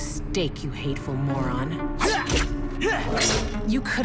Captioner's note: blade slices